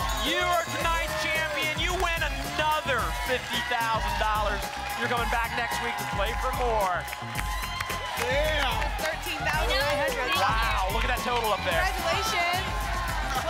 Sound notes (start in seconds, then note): 7.0 applause and cheering